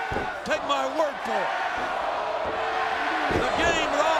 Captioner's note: audience chanting